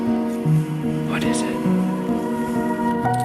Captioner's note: skier whispering